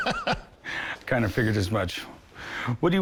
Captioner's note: laughs